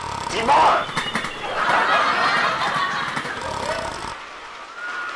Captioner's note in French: sifflements et ronflements